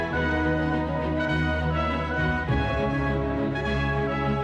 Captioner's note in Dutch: none